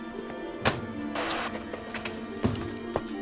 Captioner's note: static on radio